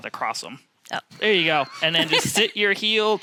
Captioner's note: laughs